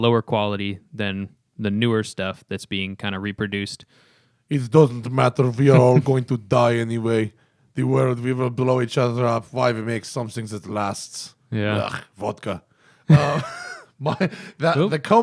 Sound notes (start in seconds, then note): 4.6 imitating Russian accent; 12.6 imitating Russian accent